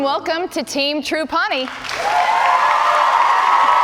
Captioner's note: cheers and applause